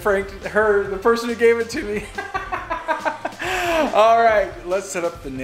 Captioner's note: laughs